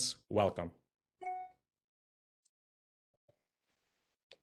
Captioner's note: computer beeps